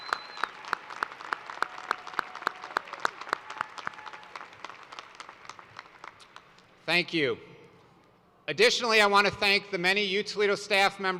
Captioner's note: cheers and applause